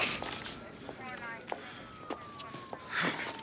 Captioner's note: police radio chatter